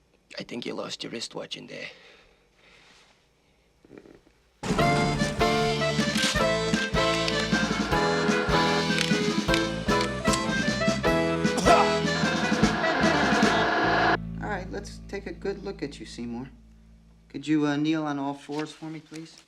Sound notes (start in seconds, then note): 4.3 upbeat music playing; 11.4 coughs